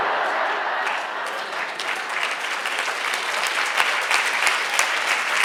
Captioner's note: audience laughs; audience applauds